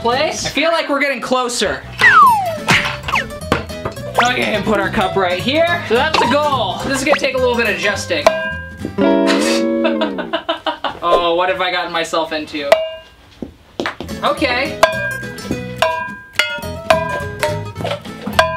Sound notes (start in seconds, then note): 9.4 laughs loudly; 15.3 ball pings